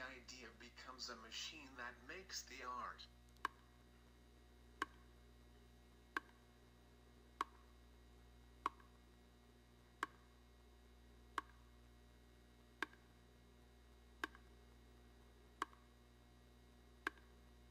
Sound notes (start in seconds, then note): 3.7 tapping